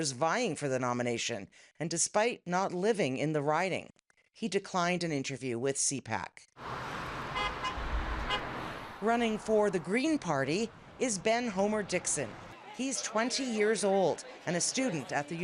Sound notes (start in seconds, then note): 6.8 horn honks